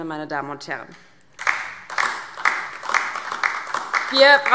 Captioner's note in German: Beifall DIE LINKE